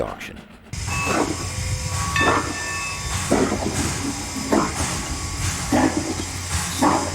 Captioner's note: Horror Film Steam Train